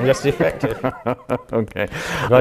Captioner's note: laughs